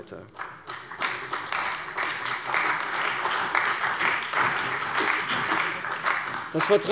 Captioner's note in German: Beifall bei der CDU und dem BÜNDNIS 90/DIE GRÜNEN